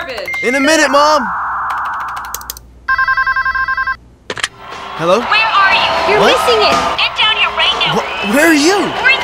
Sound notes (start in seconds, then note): 2.8 phone ringing